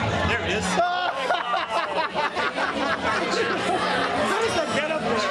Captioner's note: group laughs heartily